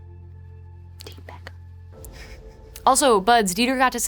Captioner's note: laughs